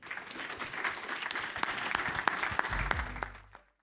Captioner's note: audience applauds